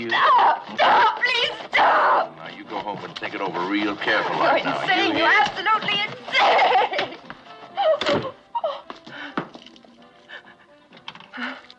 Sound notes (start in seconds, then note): 8.5 crying